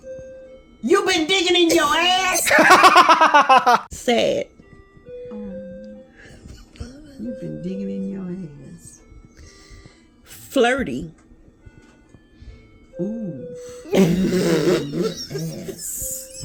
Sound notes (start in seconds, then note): 2.4 laughs